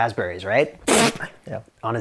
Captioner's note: blows raspberry